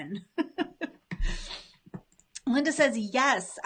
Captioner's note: laughs